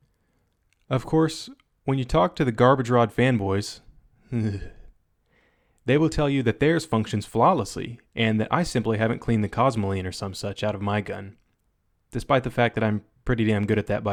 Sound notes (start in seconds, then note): 4.3 shudders